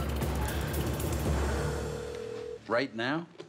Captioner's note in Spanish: la otra línea timbra